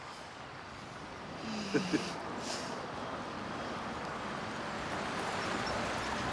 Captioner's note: Moon moans, man chuckles